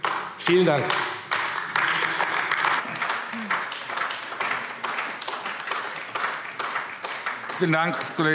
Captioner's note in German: Beifall AfD